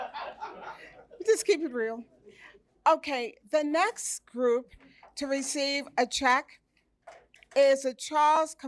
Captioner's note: laughter